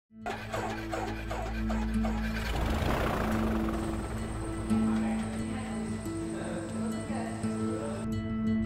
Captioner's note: plane engine starting